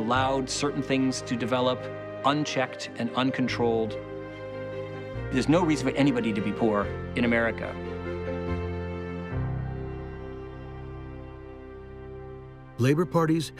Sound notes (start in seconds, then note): none